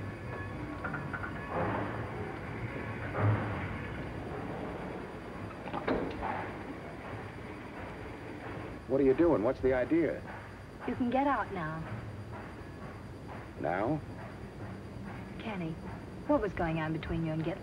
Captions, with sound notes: This wouldn't have been your lucky night, anyways. [train passes into distance]